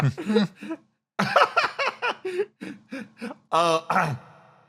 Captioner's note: laugh